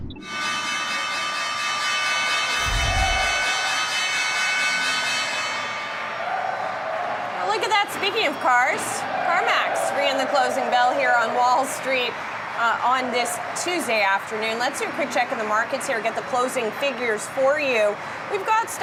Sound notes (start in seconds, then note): 4.6 bell ringing